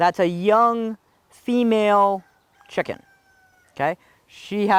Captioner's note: rooster crowing